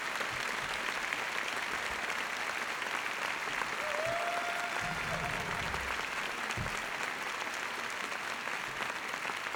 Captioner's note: applause